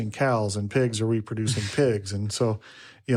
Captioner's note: speaker chuckles